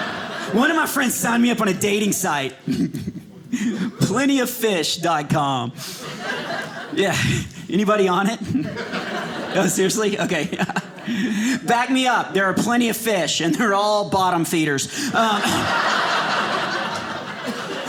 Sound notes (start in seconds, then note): 5.8 audience laughing; 15.0 audience laughing